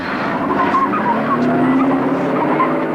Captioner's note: tires screech